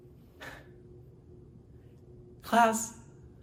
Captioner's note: sighs